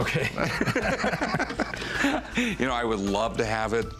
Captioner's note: laughter